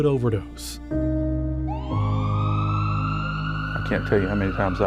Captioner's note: emergency siren wails